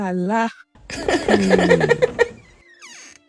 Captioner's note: laughs